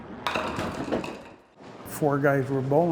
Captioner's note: ball rolling down aisle and hitting pins